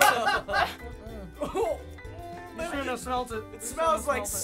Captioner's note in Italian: conati di vomito